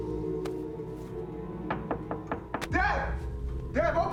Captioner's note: knocking on door